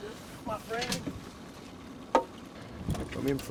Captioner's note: background chatter